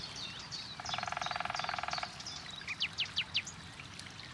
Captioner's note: woodpecker pecking